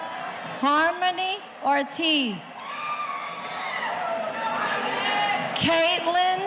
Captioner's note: audience cheering